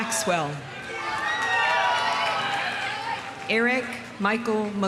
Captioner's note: audience cheering; audience applauding